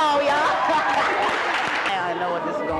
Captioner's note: clapping